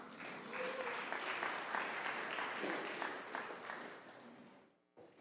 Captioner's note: audience applauding